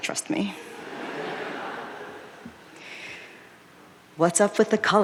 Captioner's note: audience laughing